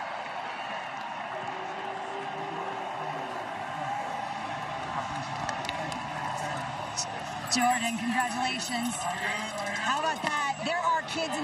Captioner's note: cheering